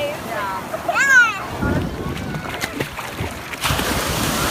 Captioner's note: waves crashing